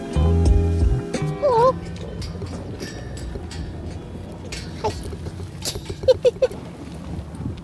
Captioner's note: laughter